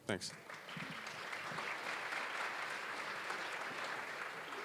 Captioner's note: applause